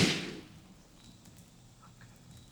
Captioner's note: fire crackling